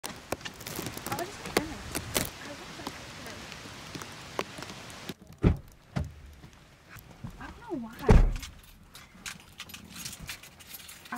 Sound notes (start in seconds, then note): 0.0 rain drizzling; 3.7 rain drizzling; 5.4 car door opens; 9.0 keys jangling